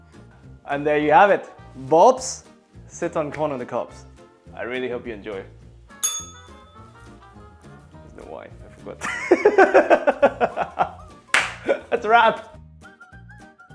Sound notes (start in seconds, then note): 6.0 bell rings; 9.1 laughs